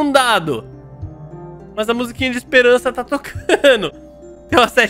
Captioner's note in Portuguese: risos